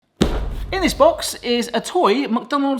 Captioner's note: box thuds